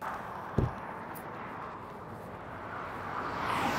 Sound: door thuds; traffic roaring

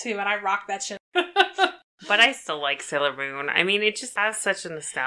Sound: laughs

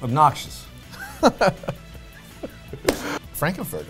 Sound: laughs

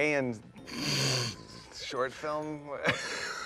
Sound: Philemon laughs

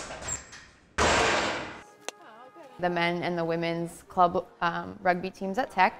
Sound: hammer smack

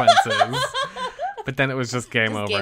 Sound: laughs

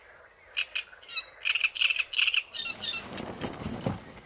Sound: crickets singing

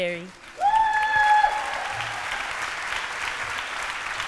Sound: cheering

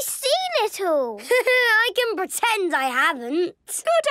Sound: Danny laughing

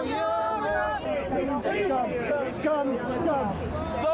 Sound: protestors yelling

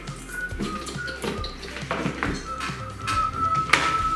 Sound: whistling

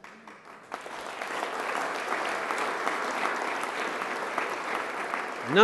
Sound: applause

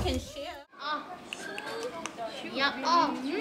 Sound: clicks tongue

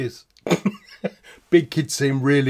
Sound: laughs

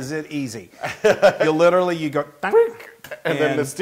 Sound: laugh

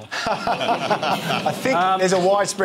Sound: laughter

